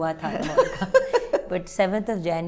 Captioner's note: giggles